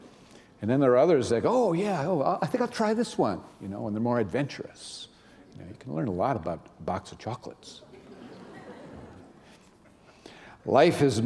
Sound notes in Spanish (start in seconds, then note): 7.8 risas